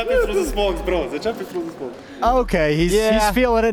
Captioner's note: S1mple speaking faintly off mic